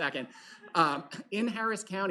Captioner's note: laughter